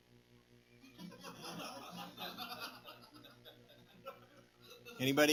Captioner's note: laughter